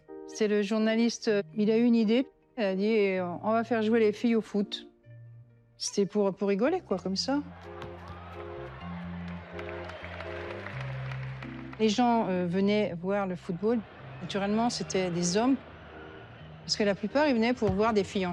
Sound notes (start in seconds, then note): 7.6 applause